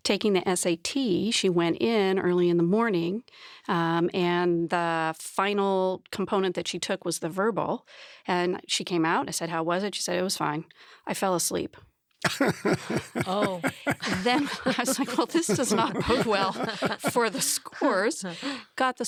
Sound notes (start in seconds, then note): 12.2 laughs; 16.5 laughing